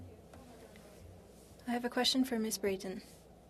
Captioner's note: speaking French